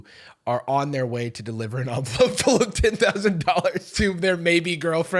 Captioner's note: laughing